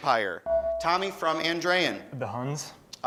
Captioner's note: beeping